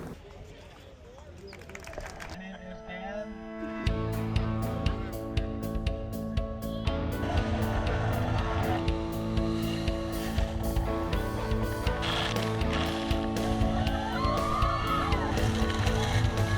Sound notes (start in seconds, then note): 0.0 people chattering; 4.0 upbeat music; 7.4 boat engine revving; 12.3 water sloshing